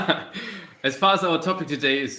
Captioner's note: chuckles